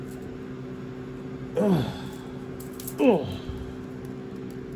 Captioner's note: Ella grunts